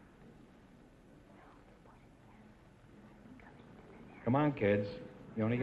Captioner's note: whispering